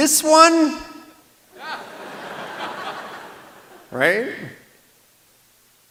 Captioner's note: laughter